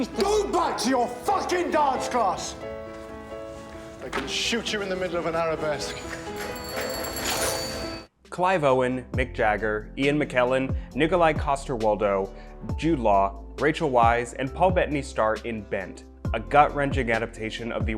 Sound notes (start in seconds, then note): 6.2 bells ringing